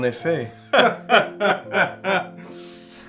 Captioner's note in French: rires hautains